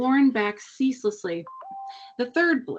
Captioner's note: cellphone chimes